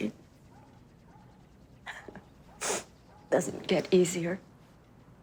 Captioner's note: chuckles